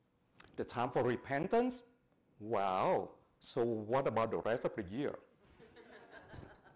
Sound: audience laughs

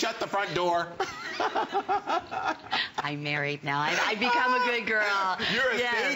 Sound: laughter

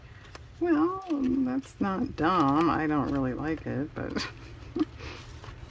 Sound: laughs

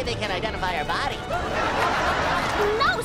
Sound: laughing

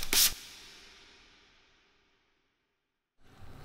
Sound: spraying

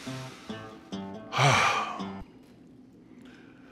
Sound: sighs

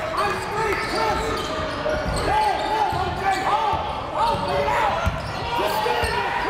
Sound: crowd talking; coaches yelling

